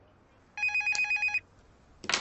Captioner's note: phone ringing